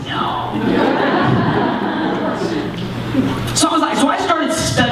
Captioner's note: laughter